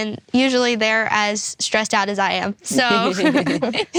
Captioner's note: laughs; everyone laughs